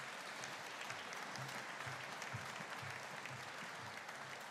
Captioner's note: audience applauding